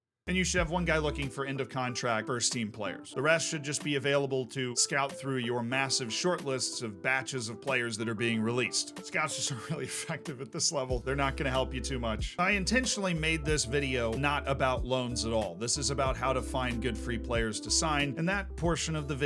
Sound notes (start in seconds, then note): 9.4 chuckles